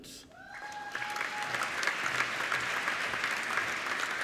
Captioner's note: applauding